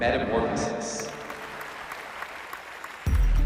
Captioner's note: applause